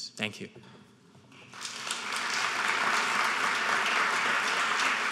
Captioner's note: applauding